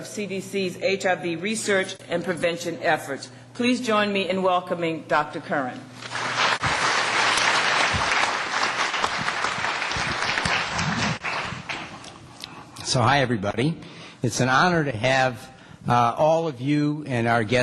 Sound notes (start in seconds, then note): 6.0 applause